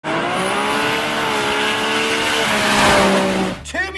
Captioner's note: car engine revving